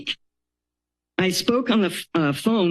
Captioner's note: pause